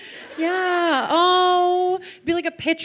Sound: laughter

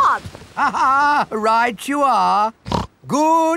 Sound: laughs; snorts

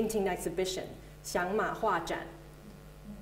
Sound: Mandarin

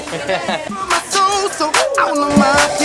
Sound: laughs

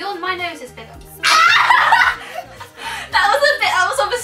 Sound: screams and laughs

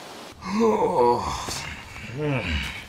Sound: yawns

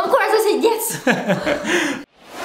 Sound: laughter

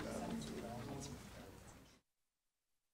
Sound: chatter

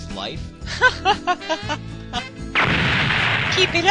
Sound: laughs

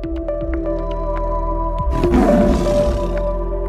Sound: tiger roaring

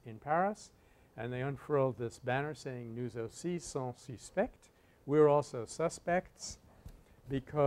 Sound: French

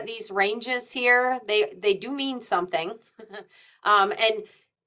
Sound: chuckles

